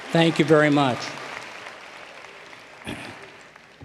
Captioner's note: cheers and applause